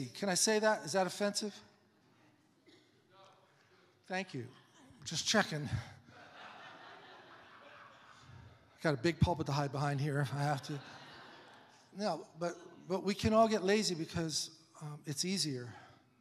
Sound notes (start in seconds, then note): 6.0 congregation laughs; 9.9 congregation laughs